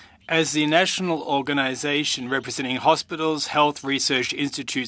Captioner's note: speaking in French